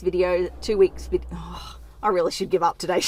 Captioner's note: sighs